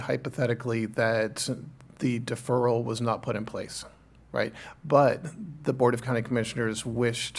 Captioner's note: clears throat